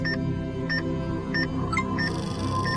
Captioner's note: EKG machine beeping; electronic chime